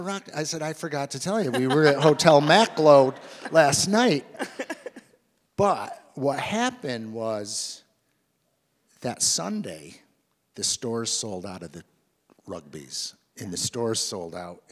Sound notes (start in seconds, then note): 4.4 laughs